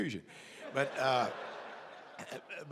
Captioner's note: laughter